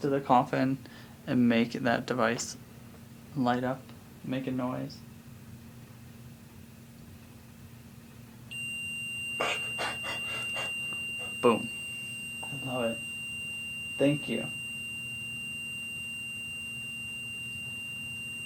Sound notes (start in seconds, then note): 8.0 REM Pod ringing